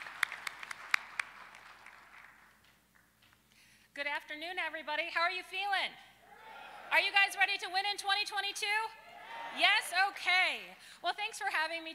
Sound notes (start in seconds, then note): 3.2 applause